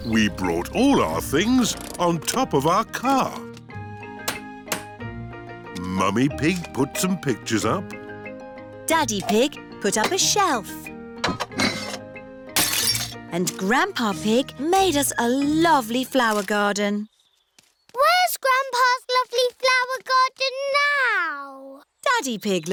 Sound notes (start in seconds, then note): 12.6 shattering